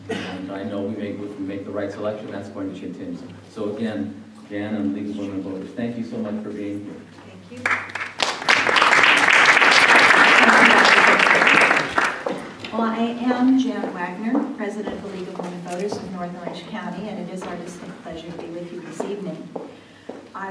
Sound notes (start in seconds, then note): 7.6 applause